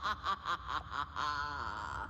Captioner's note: chrysalis laughs evilly